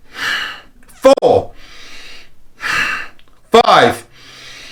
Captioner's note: breaths deeply